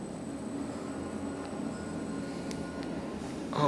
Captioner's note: left car Down Chime ringing